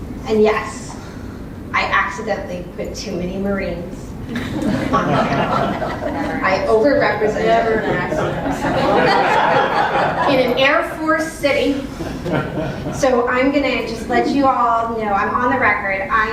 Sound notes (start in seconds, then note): 7.3 laugh